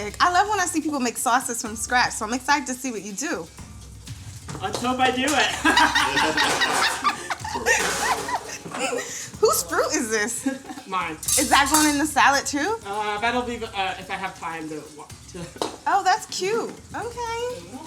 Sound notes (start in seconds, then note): 5.4 all laugh